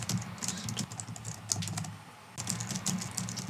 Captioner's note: types fast